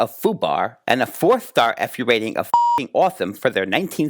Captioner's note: beep